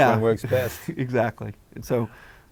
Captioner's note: laugh